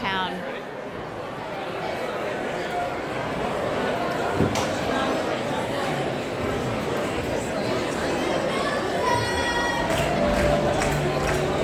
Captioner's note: general hustle & bustle sounds